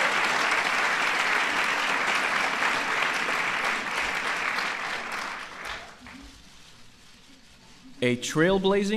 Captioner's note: applause